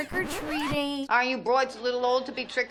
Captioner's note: record scratches